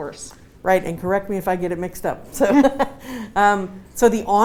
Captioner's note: laughs